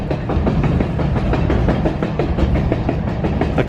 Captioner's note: train wheels clacking